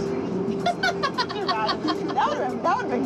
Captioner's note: laughter